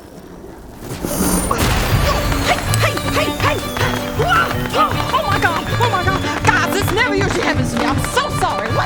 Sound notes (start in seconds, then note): 0.6 whooosh; 4.6 fireworks